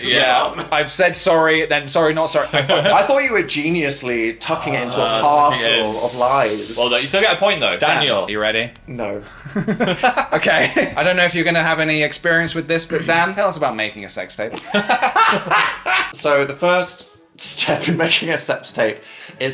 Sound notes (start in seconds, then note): 2.6 laughs; 9.2 laugh; 14.5 all laughing; 14.6 laughs